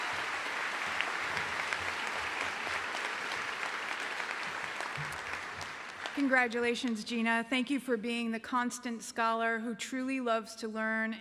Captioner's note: cheering and applause